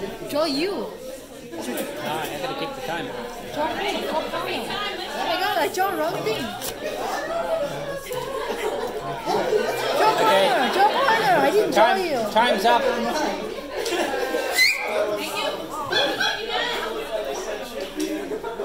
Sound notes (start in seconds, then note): 1.6 audience chatter and laughs